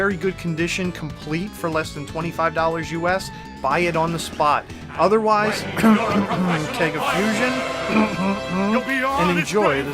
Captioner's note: cough, cough